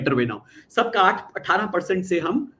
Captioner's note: non-english speech